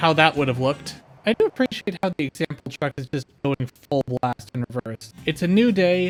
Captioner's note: choppy audio